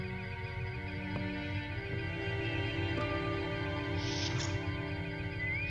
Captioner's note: bosun whistle